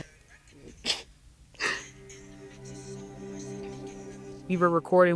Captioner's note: chuckles quietly; gentle music